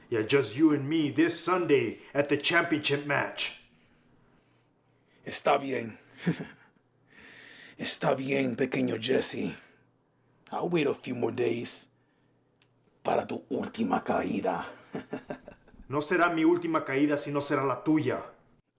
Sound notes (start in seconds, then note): 5.2 Spanish; 13.1 Spanish; 14.6 maniacal laugh; 16.1 Spanish